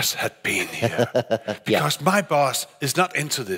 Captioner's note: laughing